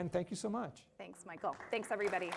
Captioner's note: applause